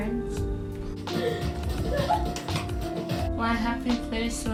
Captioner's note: laughing